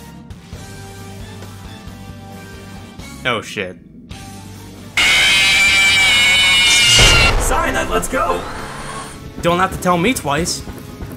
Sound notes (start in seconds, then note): 5.0 FNAF 1 scream